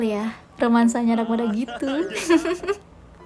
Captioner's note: chuckles